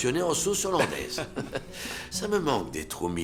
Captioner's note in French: rires